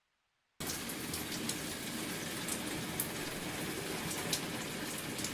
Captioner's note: water running